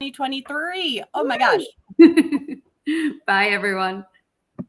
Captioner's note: chuckles